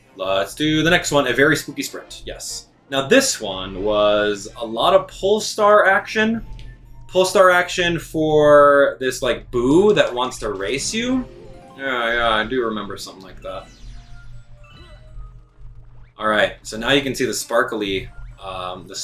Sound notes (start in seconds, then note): 14.8 gaming sounds